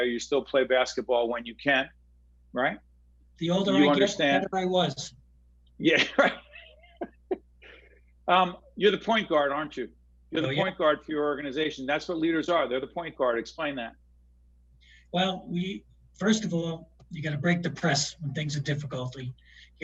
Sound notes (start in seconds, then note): 5.9 laughing